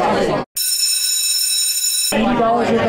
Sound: bell ringing sound effect

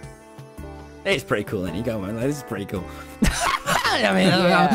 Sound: laughs

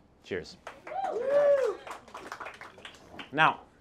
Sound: audience cheers

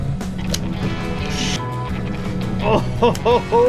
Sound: beep

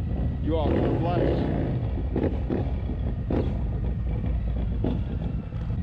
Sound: folks revving loud motorcycles

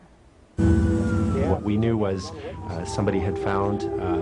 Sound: voiceover

